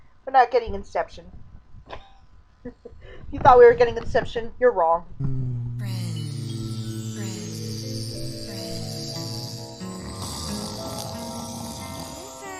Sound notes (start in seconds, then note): 1.5 disappointed chuckle; 5.2 buzzing, "friends" echoes; 10.2 snoring